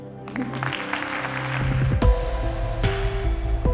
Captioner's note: audience clapping; bouncy music